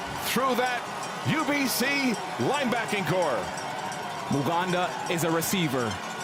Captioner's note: cheers and Applause